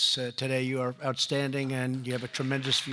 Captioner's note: applause